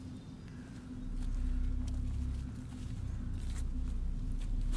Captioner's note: footsteps pattering